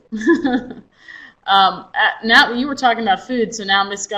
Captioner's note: chuckles